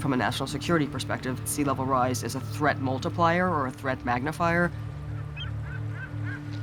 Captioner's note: seagulls squawking